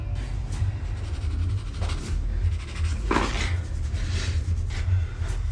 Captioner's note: pencil scratching